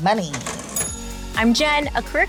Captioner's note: cash register dings